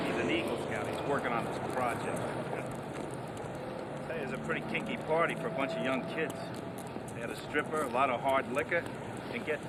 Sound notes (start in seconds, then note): 3.2 chuckles